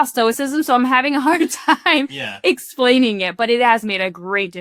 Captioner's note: chuckles